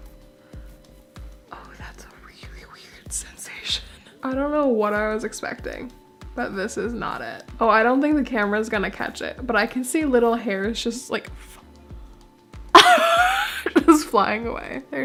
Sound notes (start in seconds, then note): 12.8 laugh